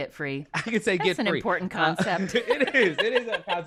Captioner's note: laughter